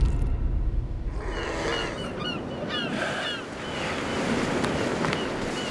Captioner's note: birds squawking